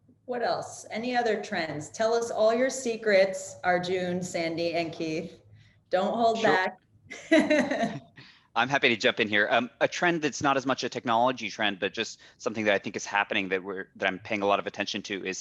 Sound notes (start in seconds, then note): 7.1 chuckles; 7.2 laughs